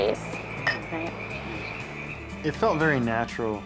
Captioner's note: glasses clink